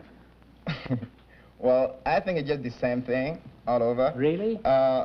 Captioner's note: chuckles